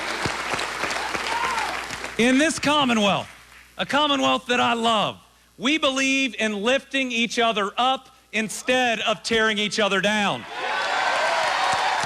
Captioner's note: applause